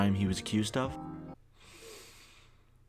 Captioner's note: inhales